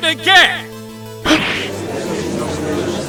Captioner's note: gasp!; gallery chattering